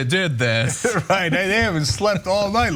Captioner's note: laugh